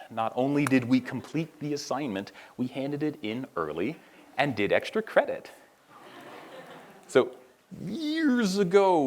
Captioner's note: laughter